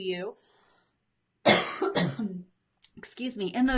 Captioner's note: coughs